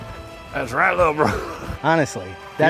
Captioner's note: chuckles